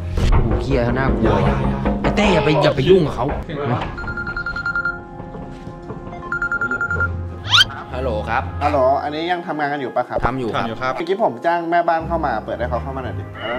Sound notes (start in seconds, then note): 0.1 knocking on the door; 4.0 phone ringing